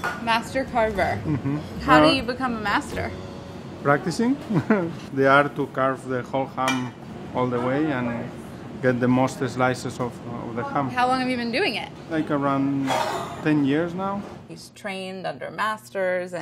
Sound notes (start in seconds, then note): 4.5 laughs